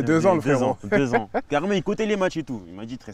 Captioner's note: laughs